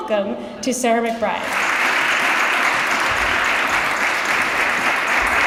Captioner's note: applause